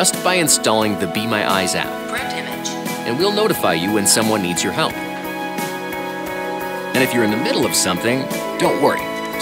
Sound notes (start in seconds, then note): 2.0 artificial Voice